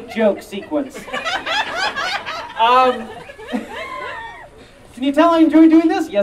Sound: audience Laughing

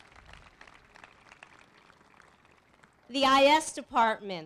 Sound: applause

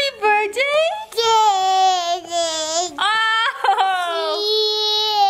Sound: laughs

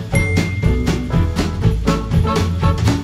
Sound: SFX - Ding

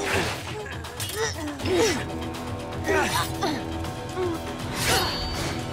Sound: grunting

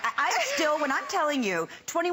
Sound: laughter

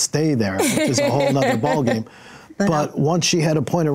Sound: laughs

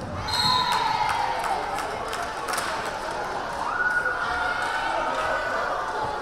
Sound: crowd cheering; whistle blaring

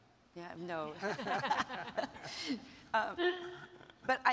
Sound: chuckles

